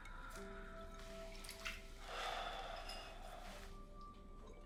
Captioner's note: sigh